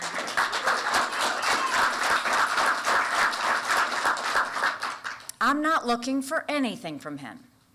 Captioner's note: applause